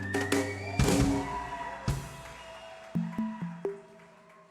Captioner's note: audience cheering